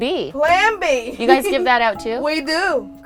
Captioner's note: laughs